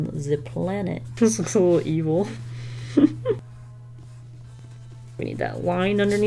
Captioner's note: chuckles